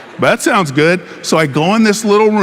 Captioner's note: audience laughing